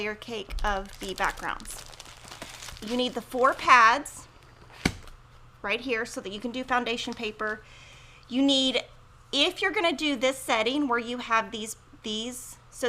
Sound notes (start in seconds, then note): 2.1 plastic crinkling; 4.7 pads thudding